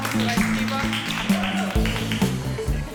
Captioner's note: applause